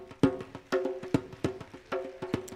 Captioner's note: applause